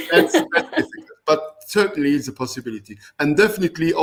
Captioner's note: laughter